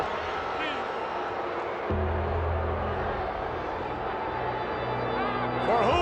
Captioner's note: crowd yelling; eerie music